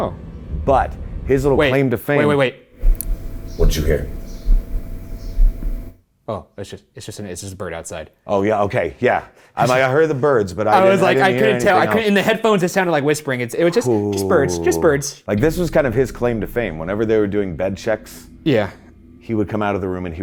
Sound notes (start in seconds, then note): 4.7 bird chirping; 4.7 heart beating